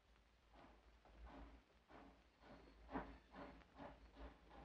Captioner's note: train chugs